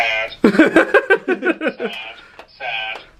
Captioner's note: laughs